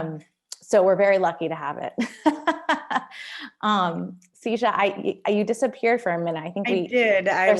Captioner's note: laughter